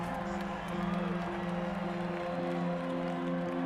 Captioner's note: crowd cheering